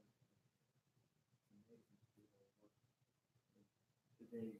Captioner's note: speaking faintly